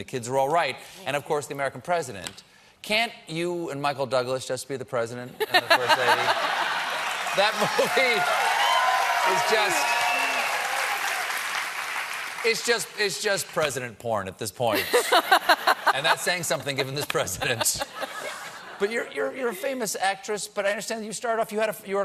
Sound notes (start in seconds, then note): 11.8 cheers and applause; 14.7 laughter